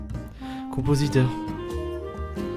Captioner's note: sigh